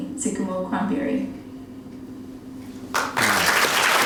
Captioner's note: foreign language spoken